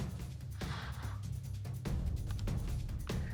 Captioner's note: exhaling